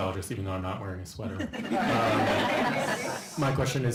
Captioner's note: laughter